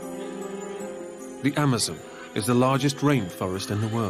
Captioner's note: voiceover